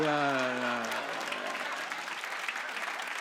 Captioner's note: applause